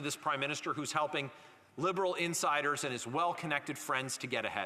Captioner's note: none